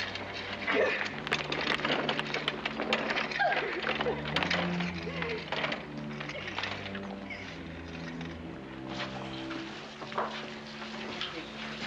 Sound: Corrie crying

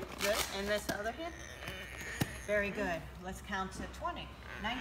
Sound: whimpering

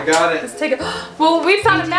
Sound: gasps

